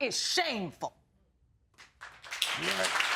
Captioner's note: audience applauds